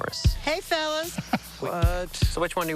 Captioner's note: group laughter